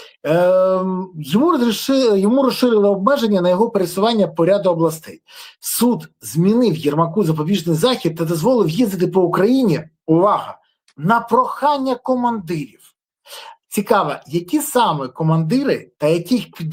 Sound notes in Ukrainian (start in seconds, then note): 5.2 сопіння; 13.2 сопіння